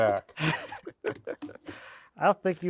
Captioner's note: speaker laughing